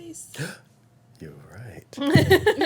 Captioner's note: gasps; laughing